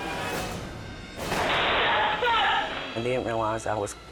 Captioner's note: gun shot